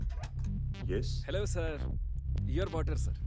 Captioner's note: door opening